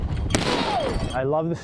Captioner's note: gun blasting